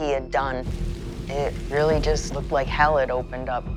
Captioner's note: flames crackling